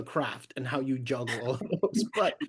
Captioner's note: laughs